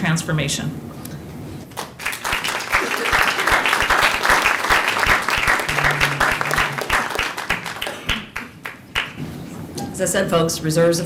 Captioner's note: applause